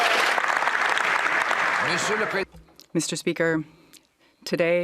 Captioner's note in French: voix de l'interprète